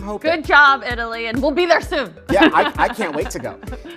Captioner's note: laughs